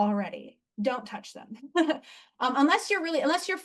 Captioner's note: chuckles